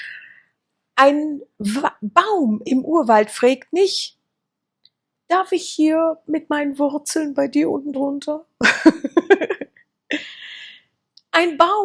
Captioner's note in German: gelächter